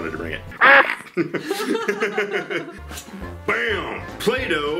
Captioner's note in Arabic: ضحك